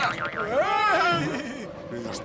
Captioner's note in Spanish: gritan